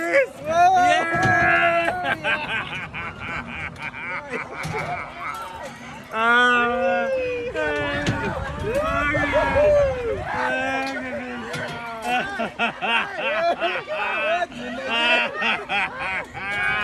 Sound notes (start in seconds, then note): 3.7 more laughing; 5.8 laughing and laughing and laughing